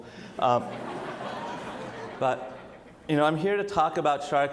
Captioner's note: audience laughs